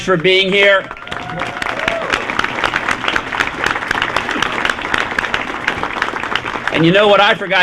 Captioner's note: applause